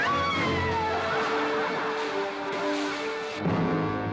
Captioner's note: Katherine screams; crowd laughing; hay rustling